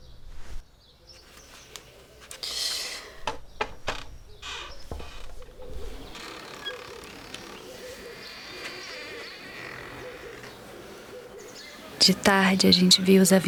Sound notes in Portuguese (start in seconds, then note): 3.2 Batidas leves; 12.0 em off